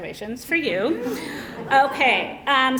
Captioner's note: laughter